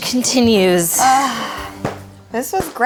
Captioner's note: sighing